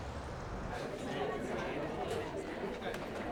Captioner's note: mixed chatter